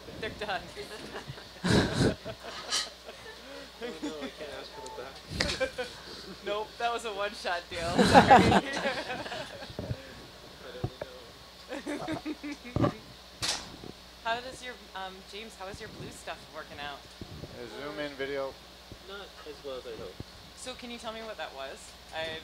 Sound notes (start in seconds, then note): 0.9 laughing; 7.8 all laughing